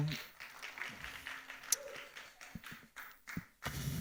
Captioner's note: audience applauding